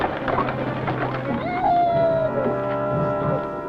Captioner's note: child crying; vintage music